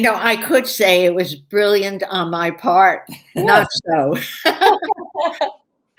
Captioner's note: laughter